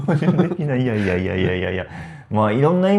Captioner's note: laughs